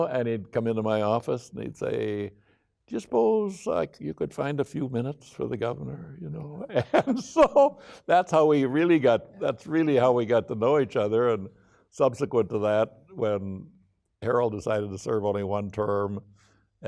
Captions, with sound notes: And he'd come into my office, and he'd say 'Do you suppose you could find a few minutes' 'for the governor?' (laughing) That's how we really got to know each other. Subsequent to that, when Harold decided to serve only one term,